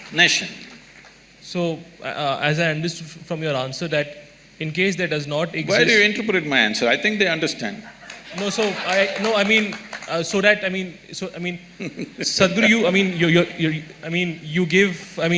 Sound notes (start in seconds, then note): 8.0 applause; 11.8 Sadhguru laughs